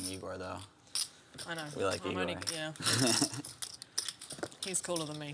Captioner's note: laugh